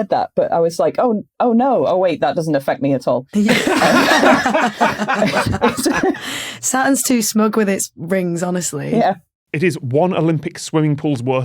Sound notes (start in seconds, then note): 3.3 group laughing uproariously